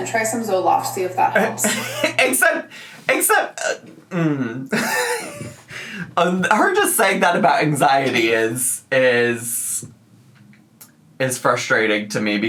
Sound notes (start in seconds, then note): 4.1 laughs